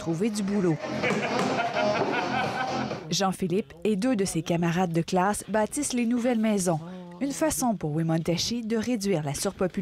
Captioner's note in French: rires et musique